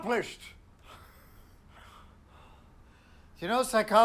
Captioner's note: Chris chuckles